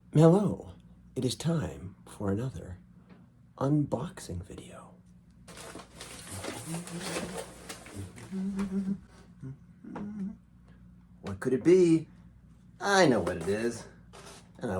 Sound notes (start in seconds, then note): 5.2 unwrapping, humming